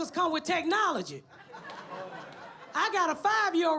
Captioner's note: audience laughs